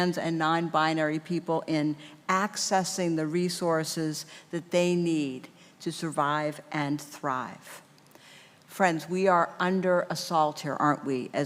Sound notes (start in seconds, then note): none